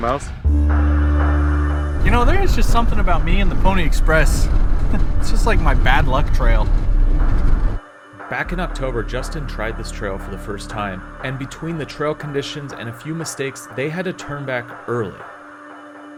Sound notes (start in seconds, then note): 0.2 dramatic music; 4.8 chuckling